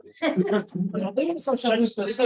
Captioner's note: audience laughs